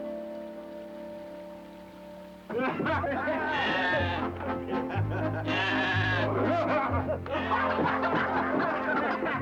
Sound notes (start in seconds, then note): 2.5 laughing; 3.4 bleating